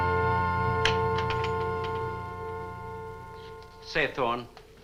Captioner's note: door opens